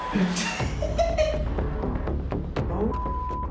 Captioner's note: laughs